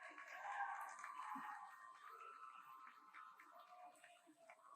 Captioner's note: audience applauds